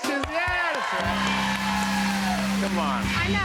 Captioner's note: cheers and applause